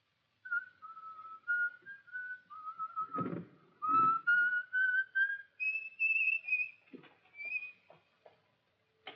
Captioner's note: whistles; door shuts